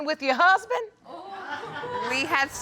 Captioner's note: audience exclaims